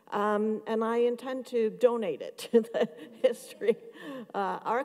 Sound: laughs

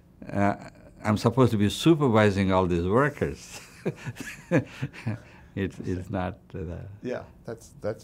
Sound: laughs

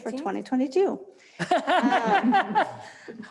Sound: laughs

